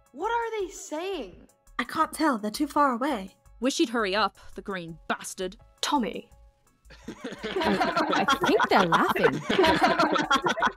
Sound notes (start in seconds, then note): 6.9 Dream Team laughing